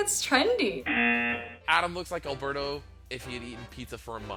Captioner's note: buzzer